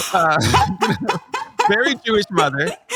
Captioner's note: lauging